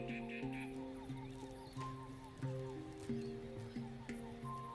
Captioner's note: tropical birdsong